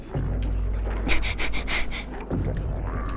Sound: more panting

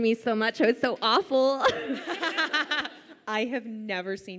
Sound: laughs

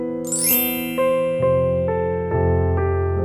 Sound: bell chimes

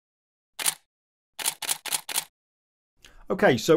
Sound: camera shutter clicking

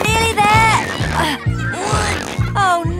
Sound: grunting

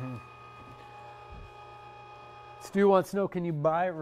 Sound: machine roaring

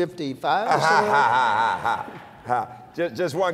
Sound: laughter

